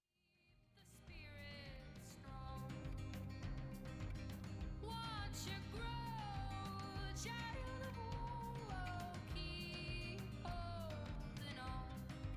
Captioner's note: applause